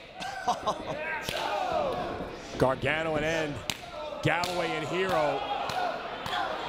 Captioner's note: laugh